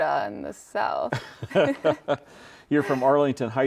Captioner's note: both laugh